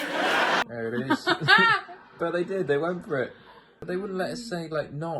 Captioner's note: laughs